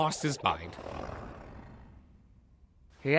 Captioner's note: Kaufmo growls